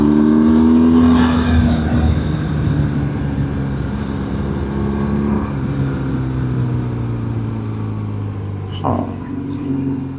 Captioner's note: engine